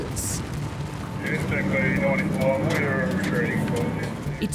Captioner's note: radio chatter